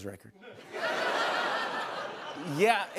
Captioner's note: laughter